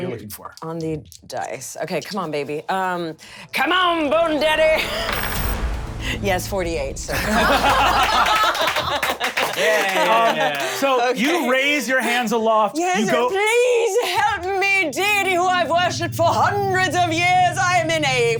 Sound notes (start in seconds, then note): 7.2 laughs; 8.0 applause